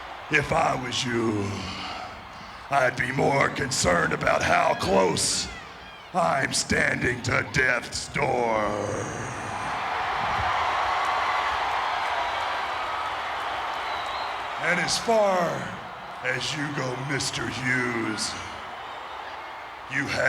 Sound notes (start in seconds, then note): 10.6 applause